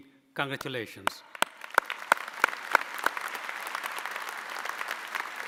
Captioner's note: audience applauding